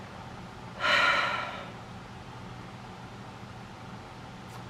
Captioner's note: exhales deeply